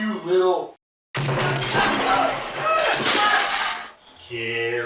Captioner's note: sounds of beating someone to death followed by glass breaking